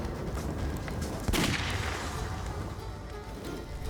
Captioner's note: gunshot